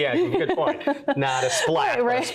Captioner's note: laughs